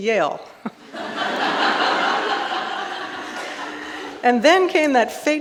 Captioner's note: audience laughing